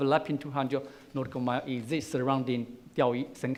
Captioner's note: foreign language